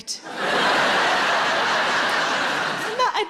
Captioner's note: audience laughing